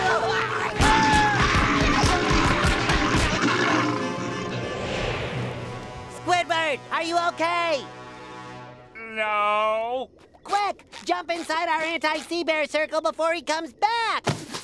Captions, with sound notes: [screaming] Squidward, are you okay? No. Quick! Jump inside our anti-sea-bear circle before he comes back!